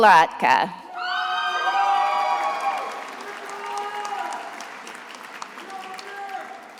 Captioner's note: attendees applauding and cheering